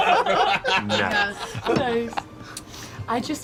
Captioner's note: laughter